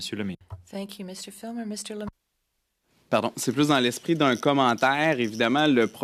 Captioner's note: speaking French